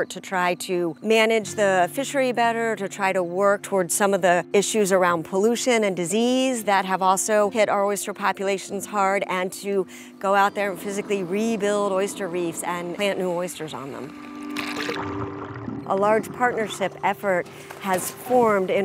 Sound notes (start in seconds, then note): 14.6 water churning